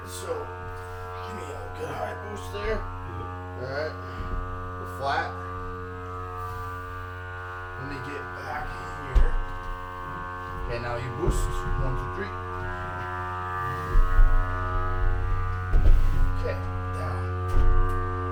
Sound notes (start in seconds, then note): 6.1 suction machine buzzing; 12.8 stone slab scraping; 12.8 suction machine buzzing